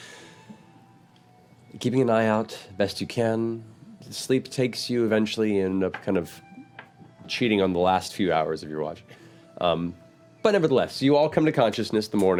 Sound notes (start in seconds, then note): none